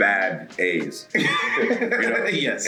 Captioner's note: laugh